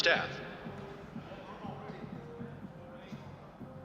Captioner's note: muffled chatter